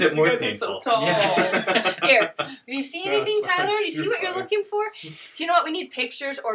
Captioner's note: laughter